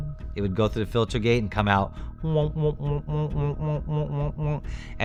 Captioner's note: makes sound effect